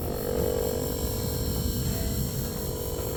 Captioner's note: scanning buzz